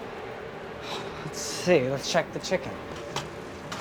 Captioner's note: sighs